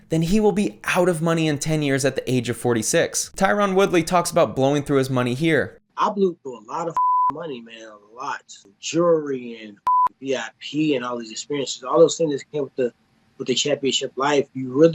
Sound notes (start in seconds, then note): 7.0 beep; 9.8 beep